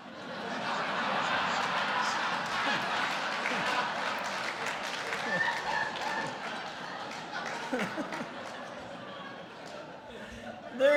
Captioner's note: laughter